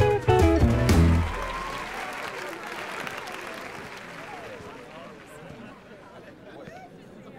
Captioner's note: crowd cheering; audience applauding